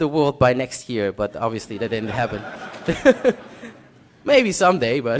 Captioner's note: laughter